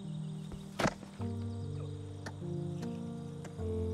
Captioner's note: sign clacks